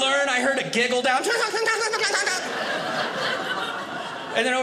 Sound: giggling; audience laughing

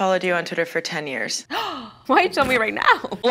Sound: gasps

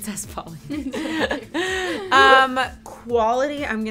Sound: all laughing

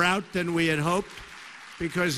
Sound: applause

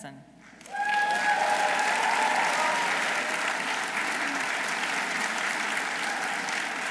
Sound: audience applauding; audience cheering

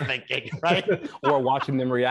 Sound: both laughing

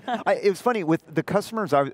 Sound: chuckles

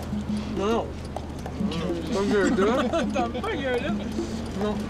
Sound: laughing

